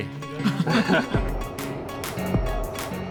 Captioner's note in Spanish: riendo